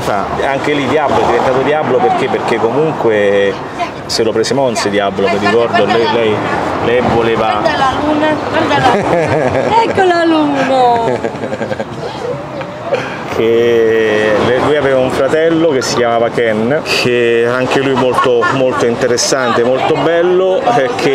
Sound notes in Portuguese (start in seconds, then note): 12.0 risos